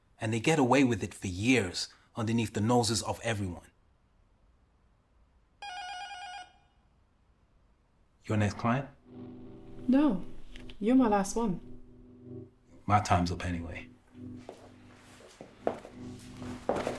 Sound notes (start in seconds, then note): 5.6 phone ringing